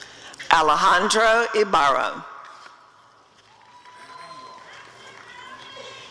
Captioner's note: applause and cheering